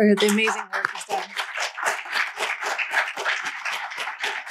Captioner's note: applause